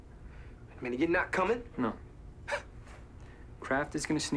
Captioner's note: scoffs